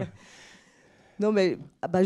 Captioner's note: laughter